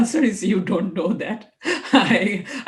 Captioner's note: chuckles